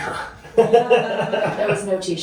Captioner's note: laughing